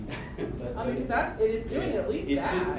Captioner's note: laughing; voiceover